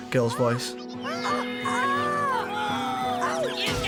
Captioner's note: yelling